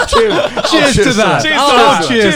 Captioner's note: all laughing